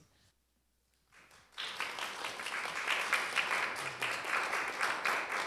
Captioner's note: applause